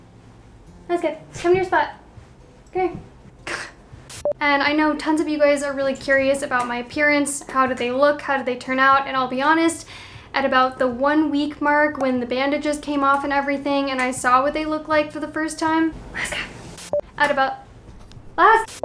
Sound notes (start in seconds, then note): 3.5 scoffing; 4.1 beep; 16.8 beep